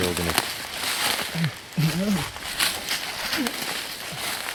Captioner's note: leaves crunching